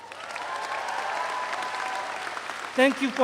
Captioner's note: audience applauds